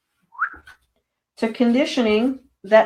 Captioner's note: whistling